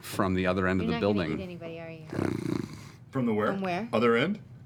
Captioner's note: snarling